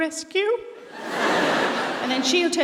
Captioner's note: audience laughing